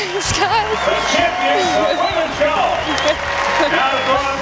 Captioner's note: cheering, whistling